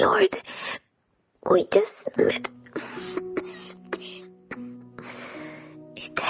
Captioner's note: cough